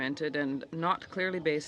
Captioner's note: speaking French